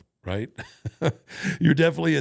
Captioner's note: Undertaker chuckles